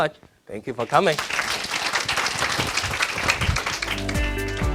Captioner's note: audience applauding; relaxing instrumental music